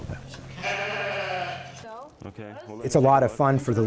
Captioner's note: sheep bleating